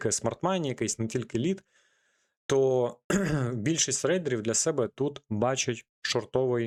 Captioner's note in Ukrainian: прочищення горла